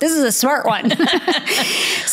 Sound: laughs

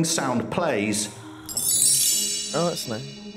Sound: twinkling sound

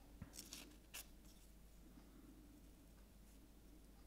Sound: paper rustling

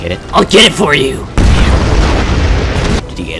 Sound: very big explosion

